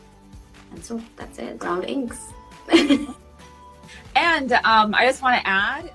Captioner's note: laughs